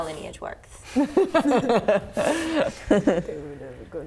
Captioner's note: laughing